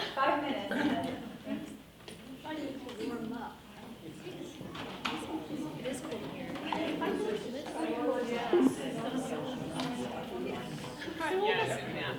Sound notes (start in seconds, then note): 4.4 chattering